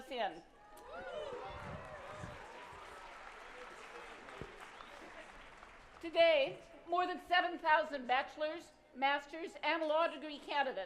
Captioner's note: applause